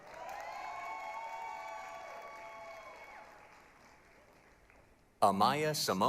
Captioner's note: applause, cheering